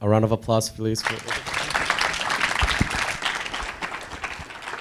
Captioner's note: audience applauding